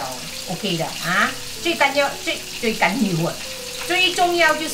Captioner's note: Cantonese